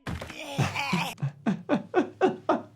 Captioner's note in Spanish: golpes corporales; Cartman jadeando; El médico de urgencias se ríe